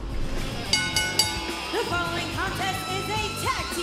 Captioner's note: bell rings